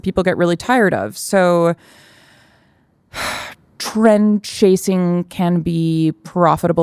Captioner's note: sighs